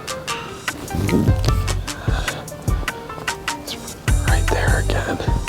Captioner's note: deer call grunts